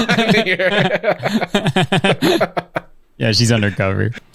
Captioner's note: pair laughs